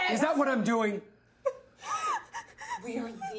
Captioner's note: Maria sobbing